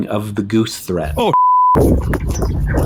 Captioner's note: beep